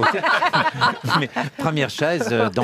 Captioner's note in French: rires